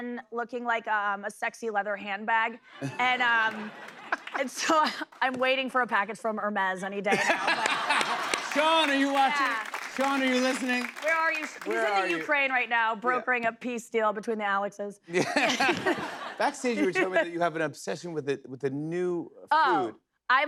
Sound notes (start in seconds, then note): 2.8 laughter; 7.1 laughter; 15.1 laughter